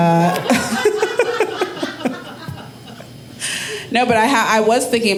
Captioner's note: audience laughing